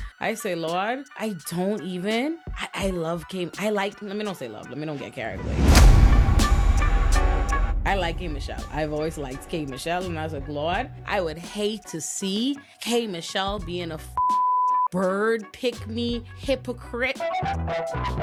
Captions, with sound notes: I say, "Lord, I don't even, I love K. I like," let me don't say love, let me don't get carried away. (upbeat music) I like K. Michelle. I've always liked K. Michelle, and I was like, "Lord, I would hate to see K. Michelle being a (beep) bird, pick me, hypocrite.